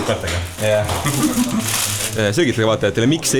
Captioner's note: chuckles